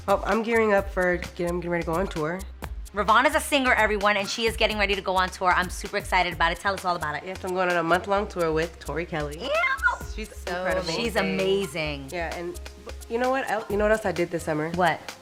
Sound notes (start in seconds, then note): 9.5 squeals